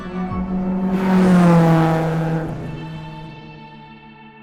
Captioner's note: car engine roaring